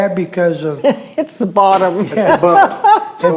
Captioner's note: laughing